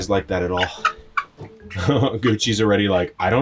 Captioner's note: chickens clucking